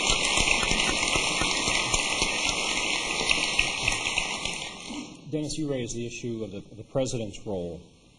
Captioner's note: applause